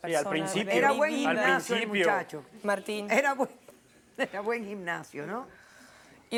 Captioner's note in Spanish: Hablan al unísono